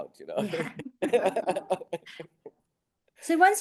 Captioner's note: both laughing